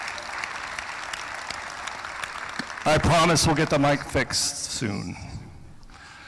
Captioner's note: applause